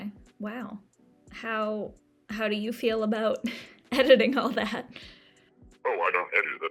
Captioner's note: chuckles